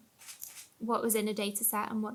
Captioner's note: camera shutters